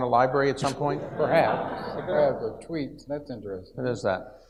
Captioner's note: audience laughs